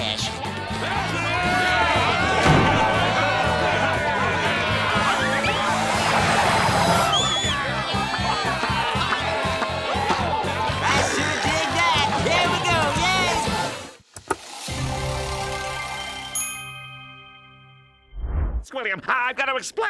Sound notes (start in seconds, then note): 0.2 loud chatter, music playing; 6.8 whistling; 7.6 loud chatter, music playing